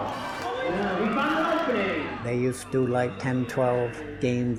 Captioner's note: cheering